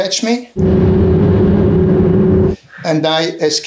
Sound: plane engine rumbling

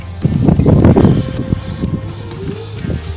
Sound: wind sound + motor sound

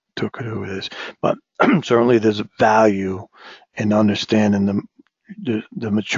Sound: cough

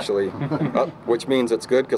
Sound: laughter

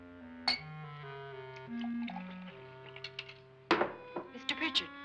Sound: glass clanks & liquid pours

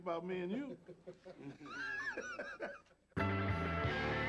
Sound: laughing; jazz music playing

